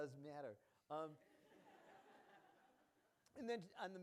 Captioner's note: laughing